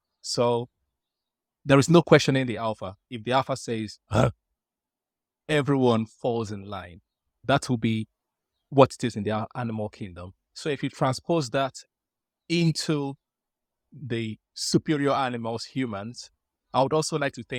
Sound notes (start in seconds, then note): 4.1 roar sound